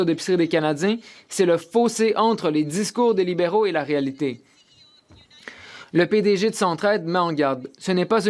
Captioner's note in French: voix de l'interprète